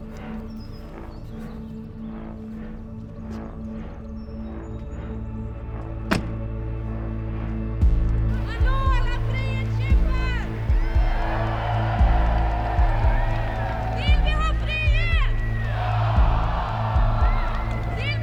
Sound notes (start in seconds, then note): 1.8 threatening ambient music; 6.1 trunk closing; 8.5 threatening ambient music with pulsing rhythm; 10.9 cheering from the crowd